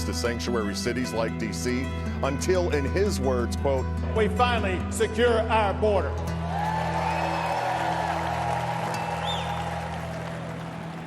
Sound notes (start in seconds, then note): 6.3 cheering